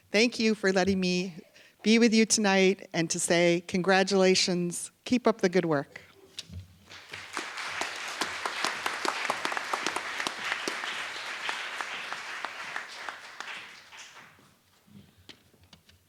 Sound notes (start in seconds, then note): 6.8 applause